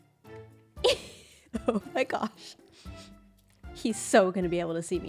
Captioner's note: laughs